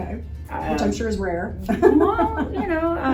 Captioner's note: laughs